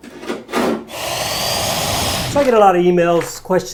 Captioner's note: tool scratching along wall; saw blade whirs